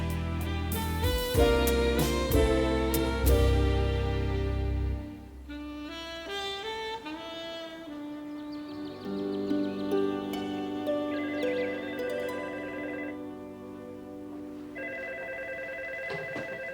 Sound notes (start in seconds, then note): 12.6 phone ringing